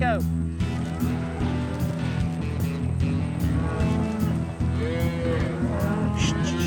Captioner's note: cattle mooing